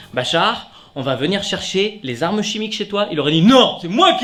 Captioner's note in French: grosse voix